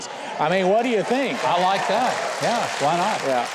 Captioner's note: audience applauding